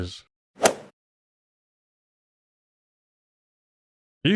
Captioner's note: golf ball hit sound